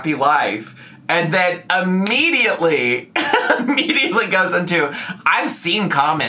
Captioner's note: laughs